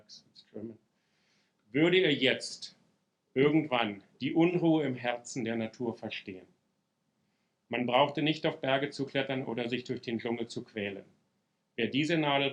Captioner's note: speaking German